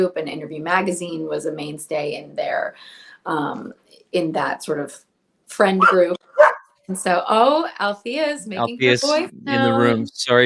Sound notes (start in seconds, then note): 6.2 dog barks